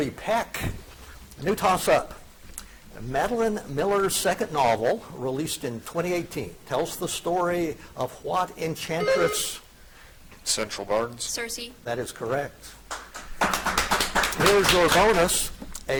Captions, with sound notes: That is Gregory Peck. New tossup. Madeline Miller's second novel released in 2018 tells the story of what enchantress- (buzzer chiming) - Central, Barnes. - Circe. - That is correct. (audience applauding) Here's your bonus.